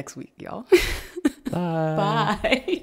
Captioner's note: laughing